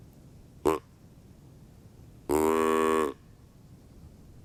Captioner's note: deer call honking